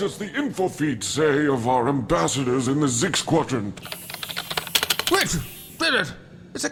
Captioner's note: taps of keyboards and screens